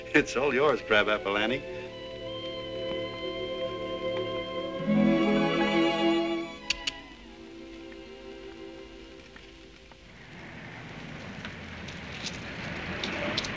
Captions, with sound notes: It's all yours, Crabapple Annie. (CLICKS TONGUE)